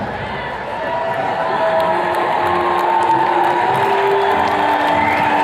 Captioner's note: attendees cheers and claps